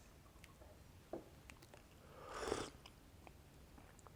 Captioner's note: sips tisane